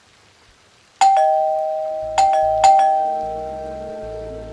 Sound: door bell rings

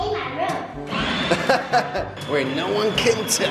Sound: laughter

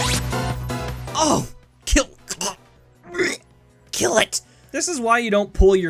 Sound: gags

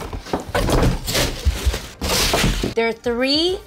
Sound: box crashing

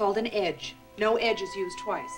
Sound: timer rings

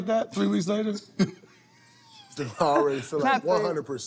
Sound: laughter

